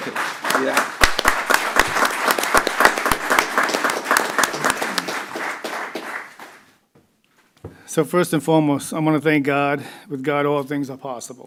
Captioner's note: applause